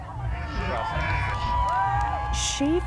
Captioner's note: crowd cheering